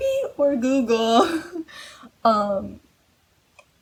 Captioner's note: laughs